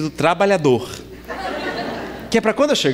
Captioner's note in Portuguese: Risadas